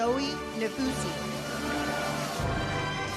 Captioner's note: audience cheers; uplifting music